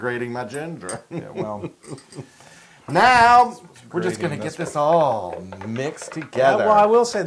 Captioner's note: laugh